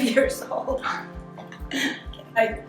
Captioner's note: laughing